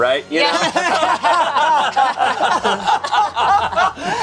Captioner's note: group laughing